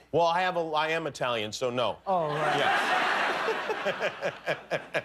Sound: laughter

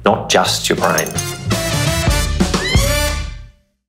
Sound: glass clinking

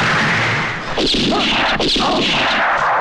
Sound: gun Firing

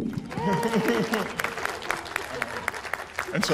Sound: applause

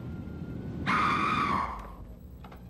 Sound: girl screams

